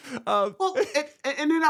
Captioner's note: laughing